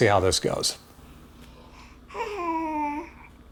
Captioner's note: yawns